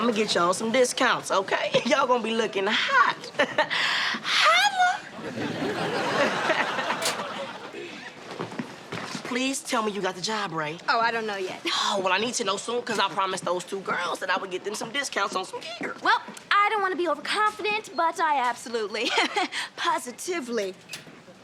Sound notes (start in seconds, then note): 4.3 laughs